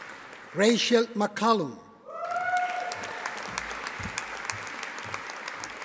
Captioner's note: audience applauding